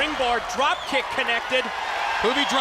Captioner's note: crowd cheering